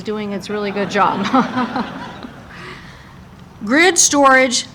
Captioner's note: Senator Cantwelll and audience laughing